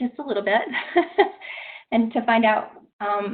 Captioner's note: laughing nervously